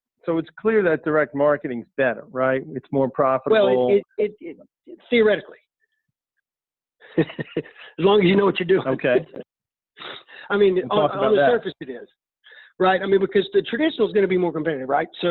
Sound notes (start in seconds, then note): 7.1 laughing